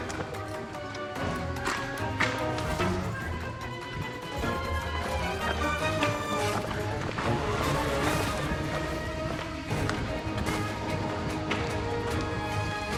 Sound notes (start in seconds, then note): 0.8 laughs; 10.5 dramatic music